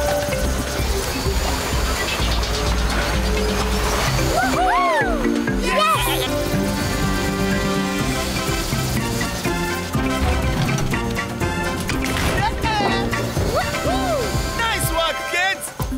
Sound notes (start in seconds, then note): 4.3 cheering